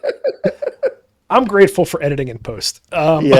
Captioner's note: laughing